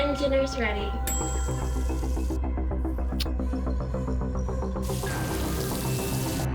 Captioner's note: timer dings; food sizzling